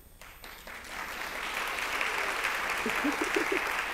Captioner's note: applause